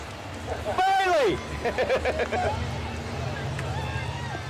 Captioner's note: laughs